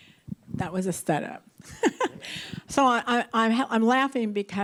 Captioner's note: laughs